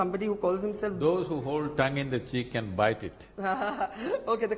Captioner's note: both laugh